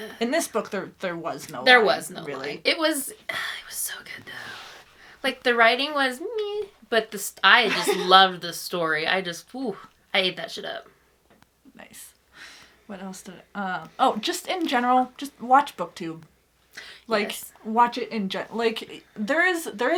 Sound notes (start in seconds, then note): 3.6 breathes out